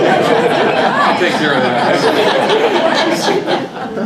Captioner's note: laugh